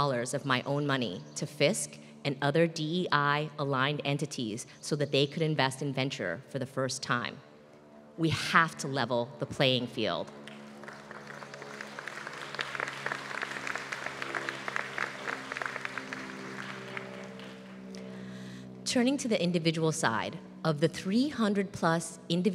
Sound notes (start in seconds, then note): 10.4 applause